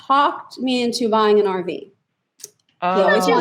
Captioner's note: laughs